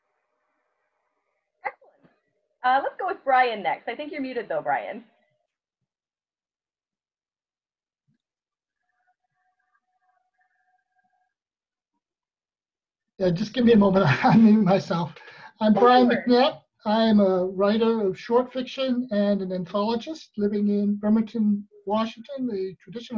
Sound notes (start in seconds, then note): 13.6 laughs